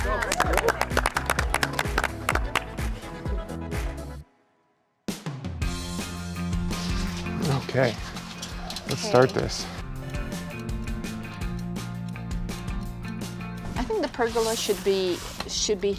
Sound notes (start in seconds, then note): 0.0 group cheers and applauds; 3.9 upbeat music; 9.4 upbeat music; 11.3 clock ticking